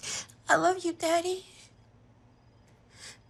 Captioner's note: she sniffles